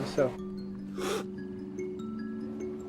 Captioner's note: slurps